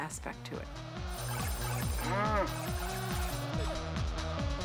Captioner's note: cow Moos